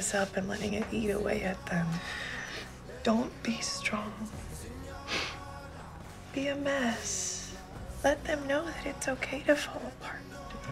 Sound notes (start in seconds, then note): 5.0 sniffles